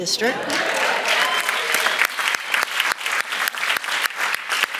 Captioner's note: audience applauds